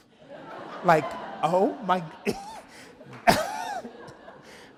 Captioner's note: laughs